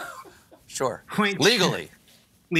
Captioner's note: laughter